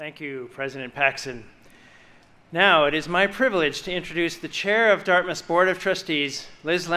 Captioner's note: none